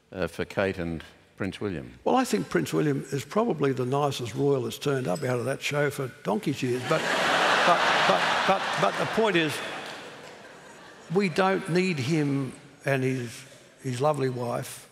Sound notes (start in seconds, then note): 6.7 laughter